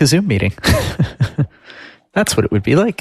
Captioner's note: laughing